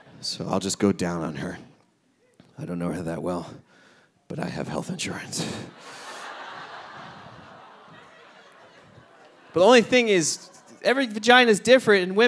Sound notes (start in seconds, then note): 5.6 audience laughing